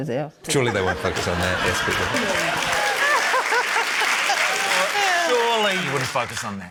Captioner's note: laughter, cheering, applause